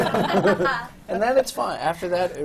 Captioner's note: laughter